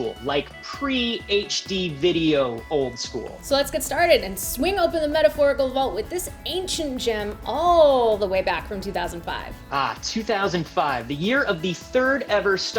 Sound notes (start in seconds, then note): none